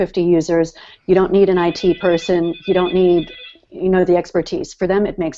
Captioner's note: phone ringing